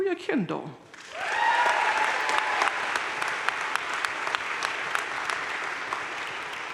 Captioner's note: crowd cheering and applauding